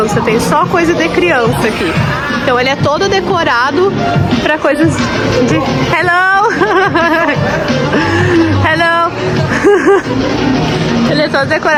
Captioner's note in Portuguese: risadas